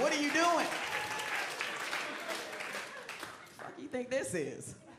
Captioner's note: crowd laughing and cheering